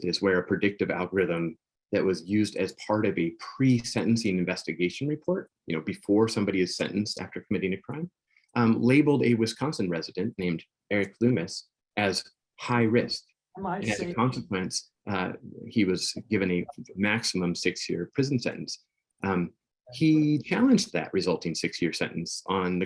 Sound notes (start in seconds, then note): 13.6 people chattering